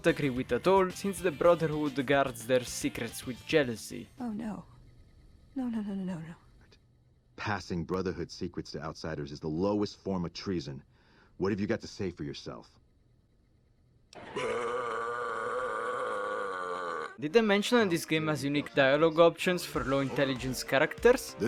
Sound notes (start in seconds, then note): 14.1 burp